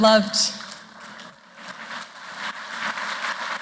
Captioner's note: applause